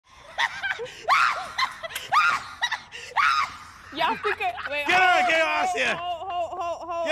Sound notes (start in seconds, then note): 0.2 laughing